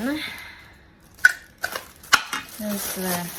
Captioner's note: small parts clatter